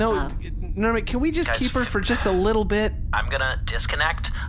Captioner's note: Nermut sighs